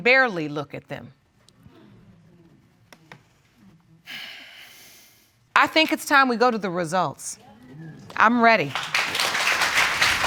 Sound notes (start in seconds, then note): 4.0 exhales; 8.7 audience applauding